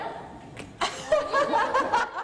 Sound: laughter

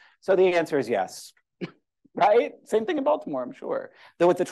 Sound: laughter

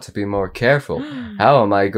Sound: gasps

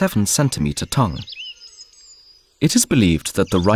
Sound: sounds of nature

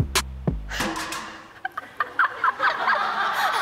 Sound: laughing sound

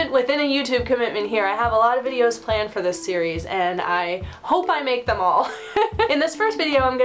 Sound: laughs

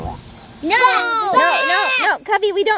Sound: kids yelling

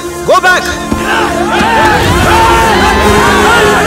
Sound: crowd screaming

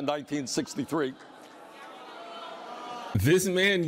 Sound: crowd booes

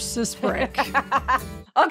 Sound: laughing

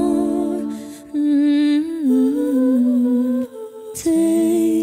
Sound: humming

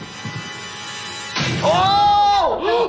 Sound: suspenseful sound effect

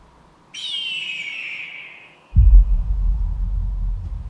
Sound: birds squawking

